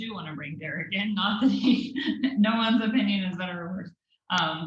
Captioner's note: laugh